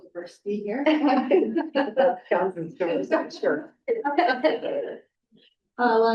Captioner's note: chuckling; faintly speaking